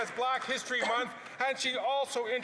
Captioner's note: some Applause